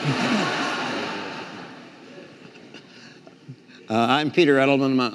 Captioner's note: audience laughing